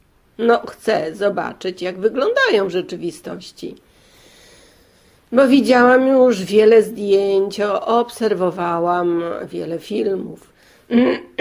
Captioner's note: clearing throat